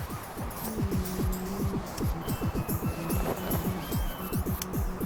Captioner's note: distant sirens wailing